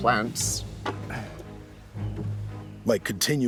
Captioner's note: grunts